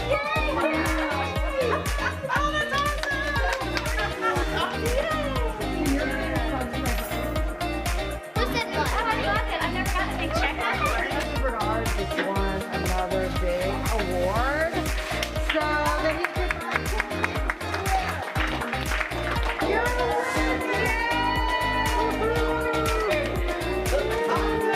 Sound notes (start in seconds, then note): 0.0 laughter and cheering; 3.8 cheering and applause; 7.6 upbeat music; 16.2 cheering and applause